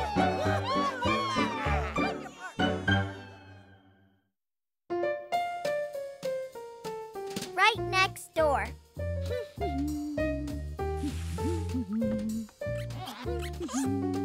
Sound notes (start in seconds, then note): 7.2 humming